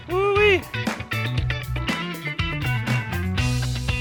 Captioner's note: cheers